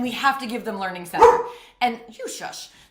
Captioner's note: dog Barks